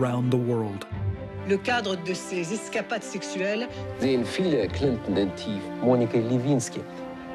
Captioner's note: speaking French, German, Russian